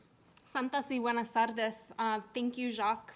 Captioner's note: speaking in foreign language